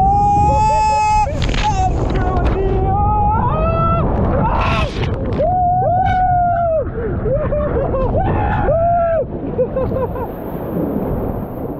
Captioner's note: more screaming